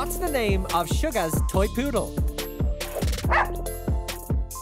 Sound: mellow hip hop music; dog barks

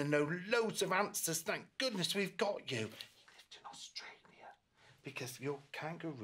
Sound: whispers

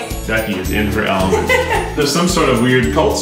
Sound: laughs

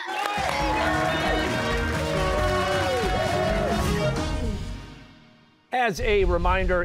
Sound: cheers and applause

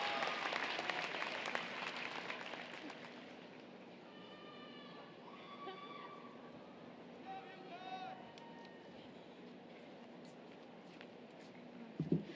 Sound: applause, Cheering

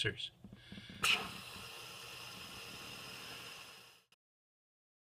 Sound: balloon deflating

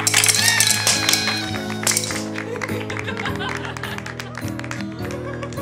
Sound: party horn, laughter, applause

